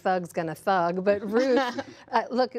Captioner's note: laughter